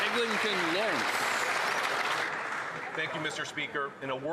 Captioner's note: some Applause